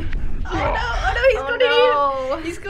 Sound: dad breathing heavily; dad grunting

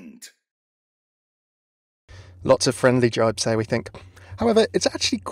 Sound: voiceover

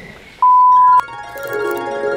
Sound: beep; angelic harp music

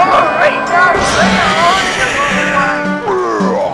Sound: Springtrap sounds

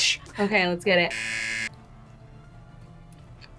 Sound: buzzer rings

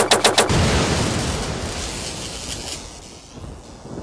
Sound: explosion Noise

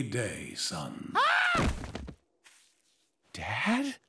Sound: screams

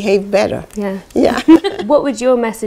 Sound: laughter

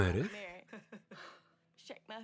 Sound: Michael laughs loudly

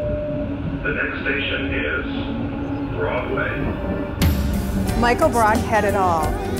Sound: voiceover

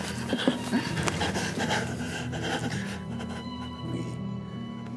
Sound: Michael panting

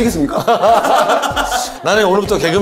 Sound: hahaha

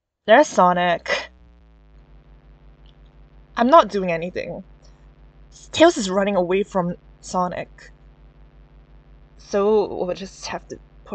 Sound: buzzing

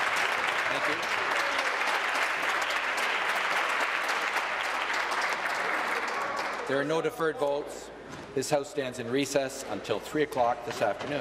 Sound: applause

